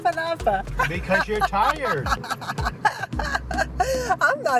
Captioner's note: laughs